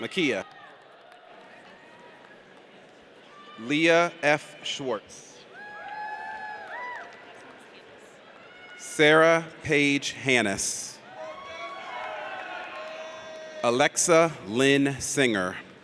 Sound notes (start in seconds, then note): 5.6 audience cheers; 11.1 audience cheers